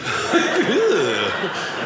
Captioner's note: audience laughing